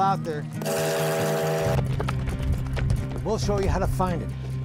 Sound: train whistling

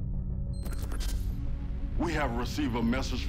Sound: computer clicks and beeps

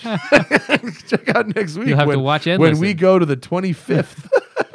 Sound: laughter

